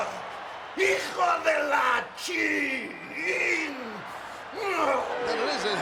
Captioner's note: crowd cheering; Guerrero speaking Spanish